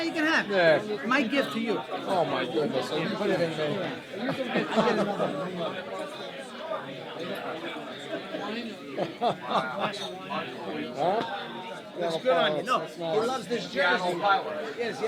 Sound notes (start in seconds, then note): 9.6 laughing